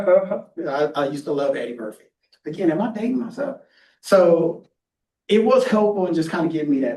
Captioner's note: laughing